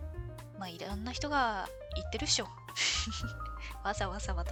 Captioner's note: laughs